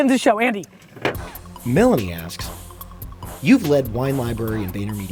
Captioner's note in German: Voice-over